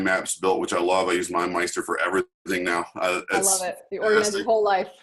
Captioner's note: chuckles; laughs